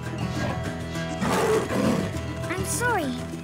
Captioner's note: growls